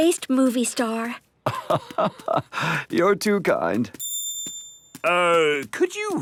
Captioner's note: laugh